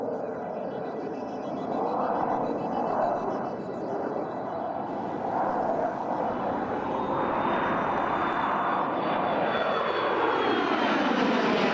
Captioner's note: airplane Sounds